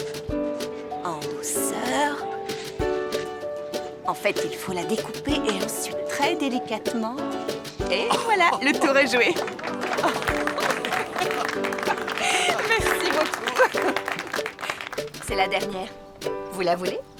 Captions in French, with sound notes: - Sentez-le. Ce que vous voulez faire c'est un sur le côté, puis... vous... - Oh ! (rires) (applaudissements) - Nous vous remercions. Pourquoi, merci. (rires) Le dernier, tu es sûr de ne pas le vouloir ?